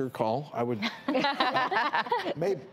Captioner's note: women laugh